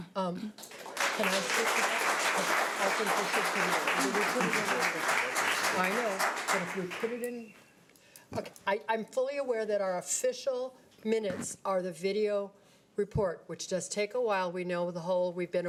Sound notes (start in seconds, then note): 0.6 audience applause